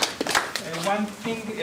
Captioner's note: audience applause